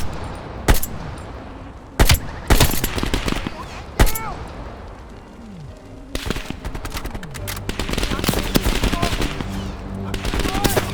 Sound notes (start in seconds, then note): 0.0 gun fires; 3.3 speaking in foreign language